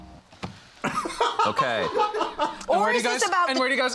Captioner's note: crew laughing